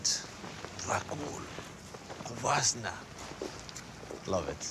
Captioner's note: speaking romanian